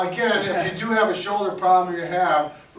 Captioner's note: chuckles